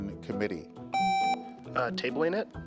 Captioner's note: contestant beeping